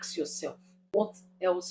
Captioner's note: paause